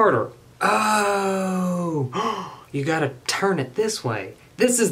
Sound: gasps

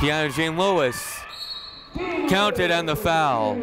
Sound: whistle blowing

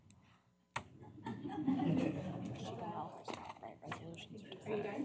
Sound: laughter

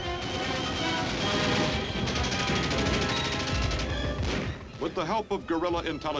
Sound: machine guns chattering

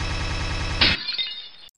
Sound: stuttering beeps; glass break

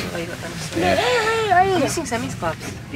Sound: child babbling

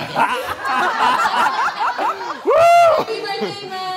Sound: laughing

